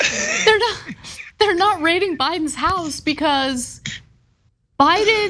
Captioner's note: laugh